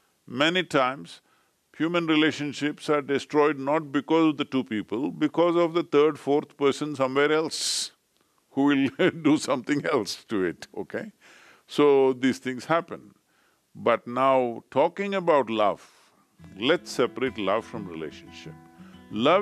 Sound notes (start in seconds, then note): 8.9 laughs